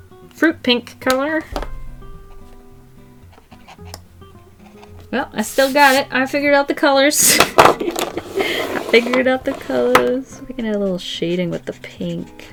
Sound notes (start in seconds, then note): 7.8 laughs